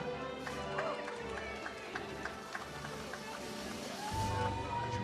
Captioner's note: audience cheers